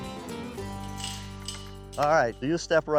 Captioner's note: gate unlocking, clanking